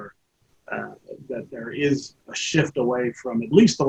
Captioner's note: chuckles